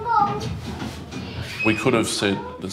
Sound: visitors chatting; door opening

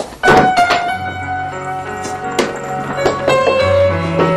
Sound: indistinct chattering

